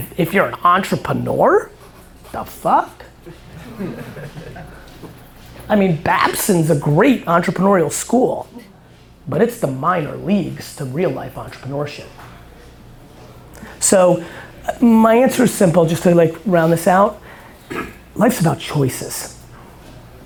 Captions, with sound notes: And if you're an entrepreneur, what the fuck? (crowd laughter) I mean, Babson's a great entrepreneurial school, but it's the minor leagues to real life entrepreneurship. So, my answer is simple, just to round this out. Life's about choices, right?